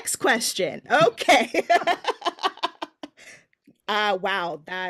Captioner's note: laughing